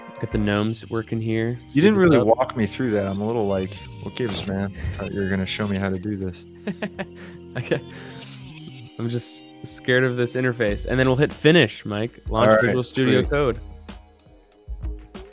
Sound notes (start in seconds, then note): 6.5 laughs